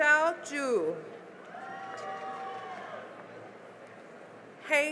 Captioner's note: cheering and applause